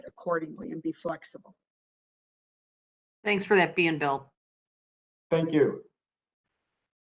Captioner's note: A pause